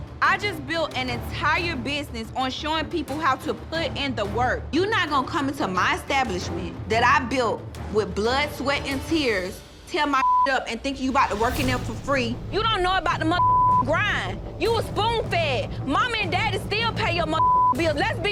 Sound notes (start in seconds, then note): 10.2 beeping; 13.3 beeping; 17.0 beeping